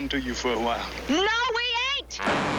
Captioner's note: gunshot firing